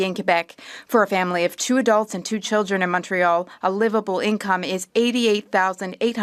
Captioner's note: speaking French